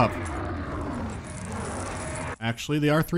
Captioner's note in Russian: рычание не прекращается